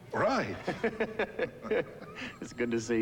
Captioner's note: Gil laughing